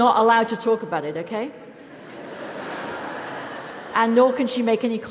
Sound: laugh

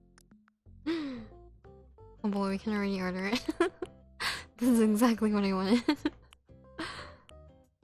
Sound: gasp

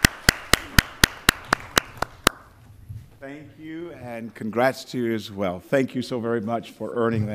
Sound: applause

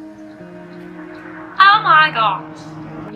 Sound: hears car pass

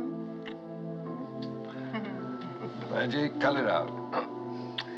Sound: giggling

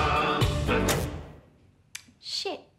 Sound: click

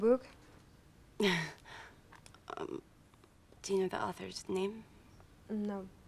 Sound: laughing

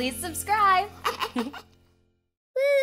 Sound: chuckling

